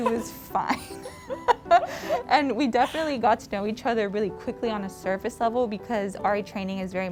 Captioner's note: laugh